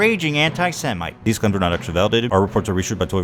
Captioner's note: breaking news music; sped up narrator